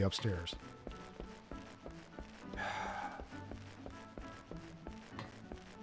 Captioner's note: sigh